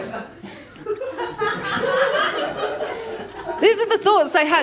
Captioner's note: laughter